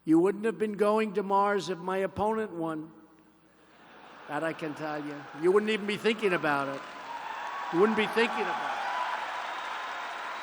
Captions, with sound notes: You wouldn't have been going to Mars if my opponent won. (laughter) That I can tell you. You wouldn't even be thinking about it. (applause) You wouldn't be thinking about it.